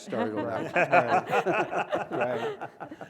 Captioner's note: laugh